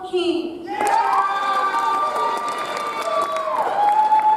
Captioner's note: audience applauds